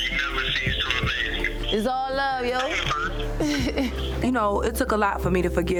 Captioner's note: mumbles